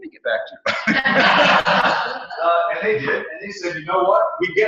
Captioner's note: laugh